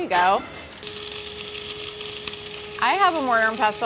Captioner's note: grinder whirring